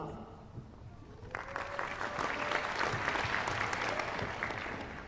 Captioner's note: applause